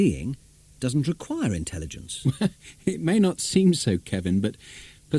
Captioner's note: laughs